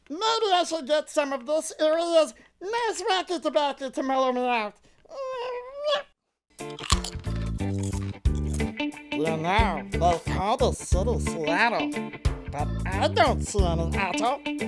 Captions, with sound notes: Maybe I should get some of this area's nice wacky tobaccy to mellow me out. (Rasta music) (crunching) You know, they call this city Seattle But I don't see any attle.